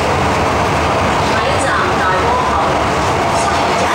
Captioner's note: Cantonese